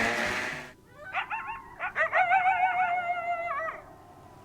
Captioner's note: dogs barking